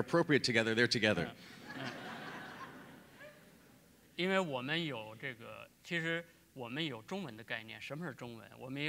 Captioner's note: laughter; speaking in Chinese